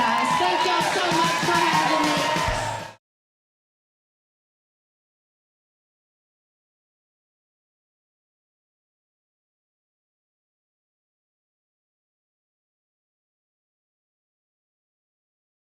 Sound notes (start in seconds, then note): 2.6 audience Cheering